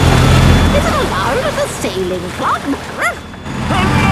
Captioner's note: barks